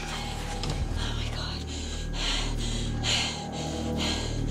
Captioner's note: Panting